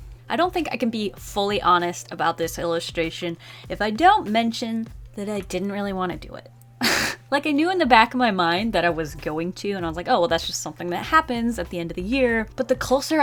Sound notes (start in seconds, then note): 6.8 laughs